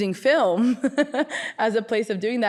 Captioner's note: laughs